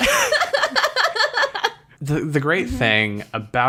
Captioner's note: laughs